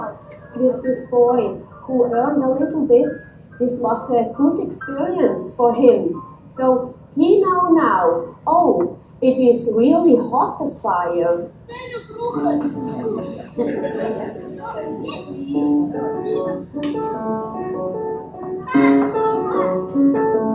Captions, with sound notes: - This boy who burned a little bit, this was a good experience for him. So he know now, oh it is really hot, the fire. (speak foreign language) (playful piano music)